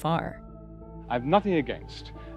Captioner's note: soundbite of archived recording